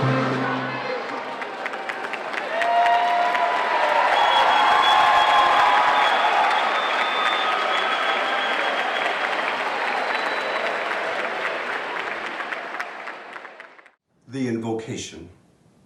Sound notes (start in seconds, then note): 0.6 applause